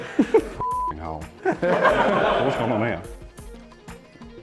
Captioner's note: laughter